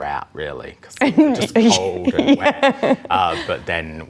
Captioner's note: laughs